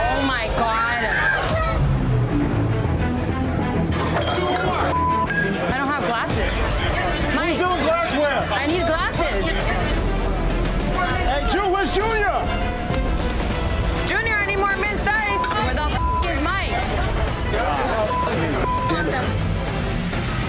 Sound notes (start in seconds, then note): 1.9 tense music; 4.8 beep; 15.2 beep